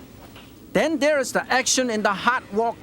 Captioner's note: fire blazing